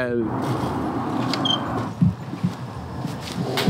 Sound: door squeaking

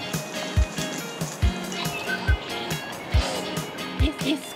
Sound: whimpering

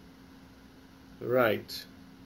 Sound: pause

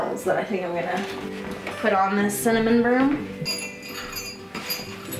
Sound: jingling

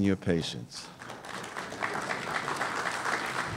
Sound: applause

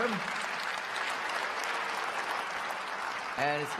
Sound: applause

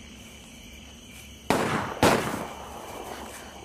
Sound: gunshots

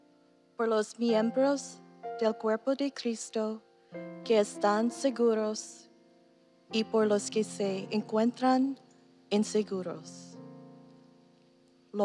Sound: speaking non-english

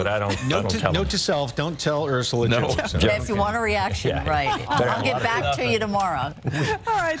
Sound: laughter

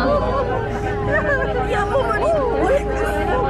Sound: laughing

